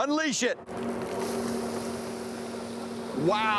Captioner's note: water splashing